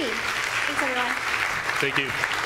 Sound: audience claps

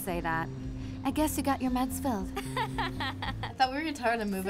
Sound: friend jeering

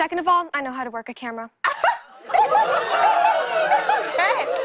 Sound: laughter and cheers

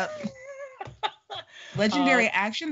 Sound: laughing

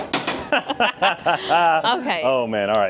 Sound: both laughing

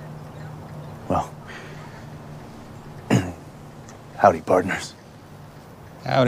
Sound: clears throat

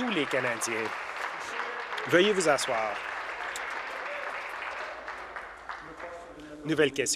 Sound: applause

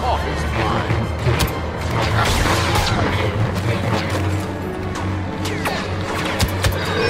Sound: orchestral music; electronic zapping

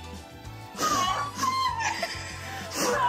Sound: all laugh

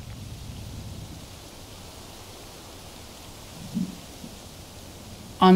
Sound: quiet wind

